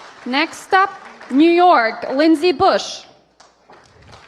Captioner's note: applause